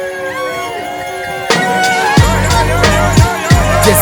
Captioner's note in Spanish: yayayayayaaaaa!